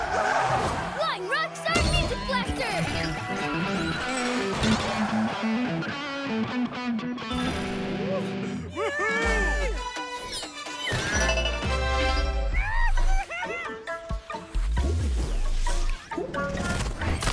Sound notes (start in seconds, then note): 12.5 evil laugh